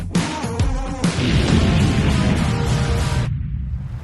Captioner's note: explosions